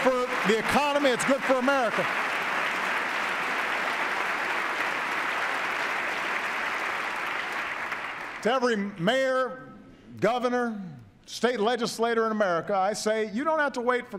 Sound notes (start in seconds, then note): 1.7 sustained applause